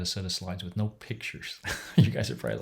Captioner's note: chuckles